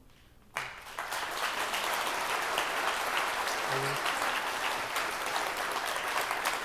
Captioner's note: attendees applauding